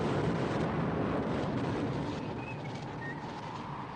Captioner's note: Harry whistles